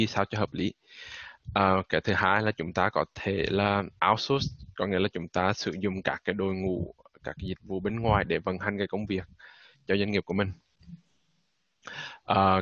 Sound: speaking Vietnamese

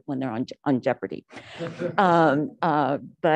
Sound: laughter

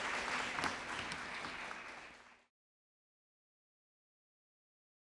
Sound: audience clapping

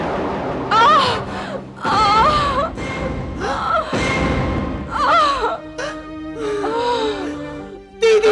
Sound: groans

